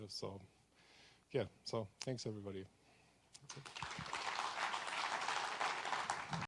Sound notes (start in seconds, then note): 3.5 audience applauds